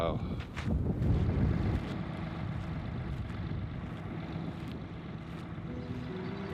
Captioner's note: humming of solar factory; solemn music